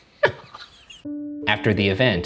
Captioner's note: laughing